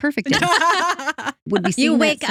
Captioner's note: laughing